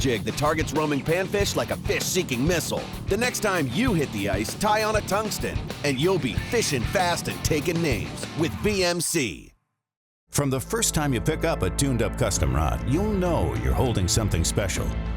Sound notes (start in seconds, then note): 10.5 voiceover